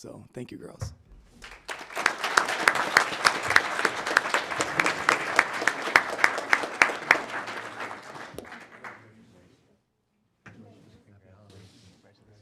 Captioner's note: applause